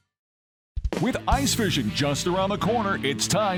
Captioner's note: voiceover